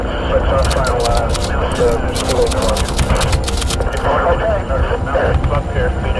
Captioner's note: typewriter clicking